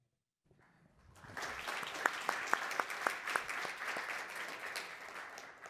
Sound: applause

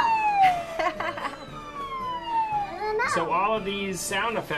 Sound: laughter

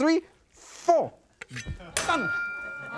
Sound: knife swishes; knife clinks; audience laughs

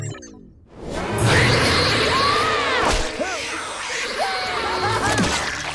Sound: screeching; screaming

